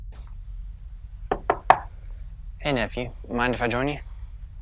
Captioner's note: knock on door